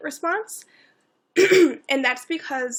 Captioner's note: clears throat